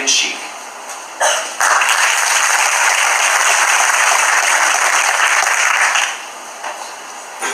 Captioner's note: applause